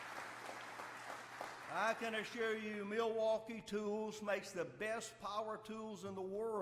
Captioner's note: applause